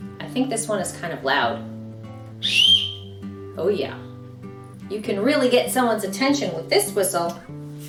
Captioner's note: tweet